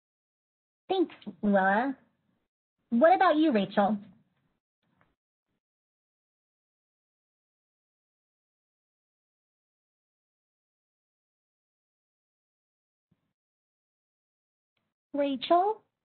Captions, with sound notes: Thanks, Luella. What about you, Rachel? (long silence) Rachel?